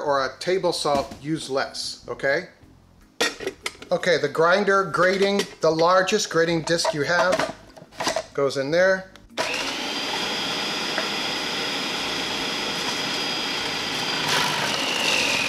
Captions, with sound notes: or a table salt, use less, okay? (clanks) Okay, the grinder grating, the largest grating disc you have goes in there. (machine whirs)